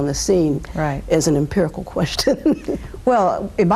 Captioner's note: laughs